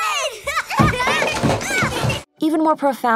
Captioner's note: laughs